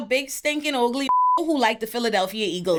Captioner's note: beep